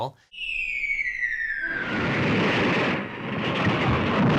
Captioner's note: loud crashing